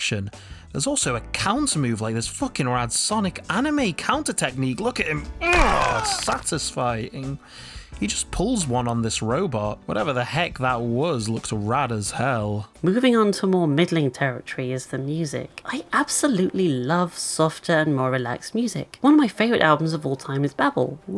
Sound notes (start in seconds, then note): 5.4 grunts